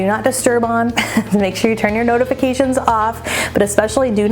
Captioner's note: chuckling